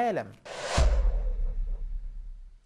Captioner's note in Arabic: مُؤَثِّرَات صَوْتِيَّة